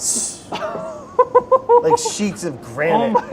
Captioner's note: chuckling